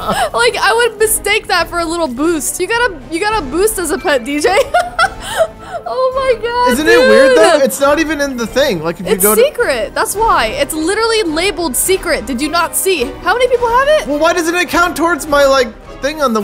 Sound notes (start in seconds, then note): 4.5 laughing